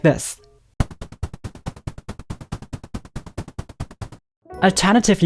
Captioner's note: rapid digital sounds